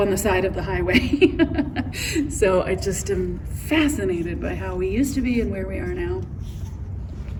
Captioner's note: laughs